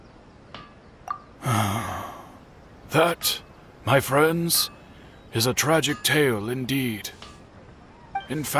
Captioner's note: sigh